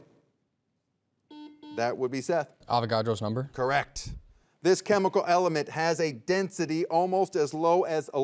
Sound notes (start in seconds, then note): 1.3 soft beeping